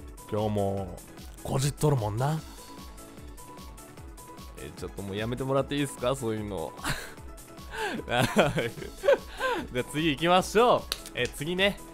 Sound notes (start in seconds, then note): 8.0 awkward laugh